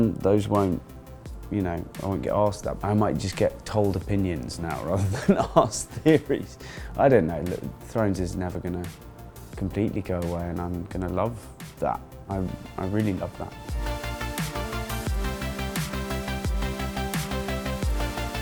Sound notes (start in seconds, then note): 5.0 laughs; 13.9 upbeat techno music